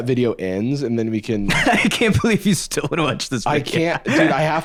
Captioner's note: laughs